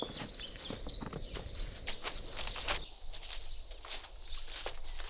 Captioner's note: birds chirp